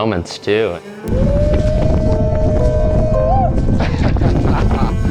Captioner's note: howling